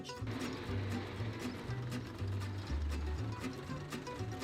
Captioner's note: locomotive chuffing